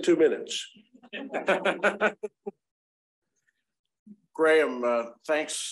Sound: laughing

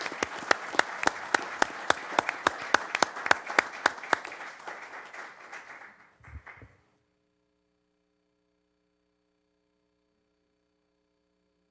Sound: applause

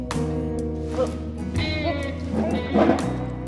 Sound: gagging

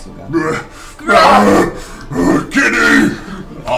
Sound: groans

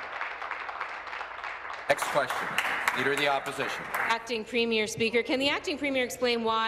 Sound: applause

